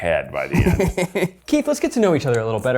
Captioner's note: chuckles